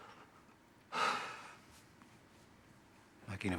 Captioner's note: sighs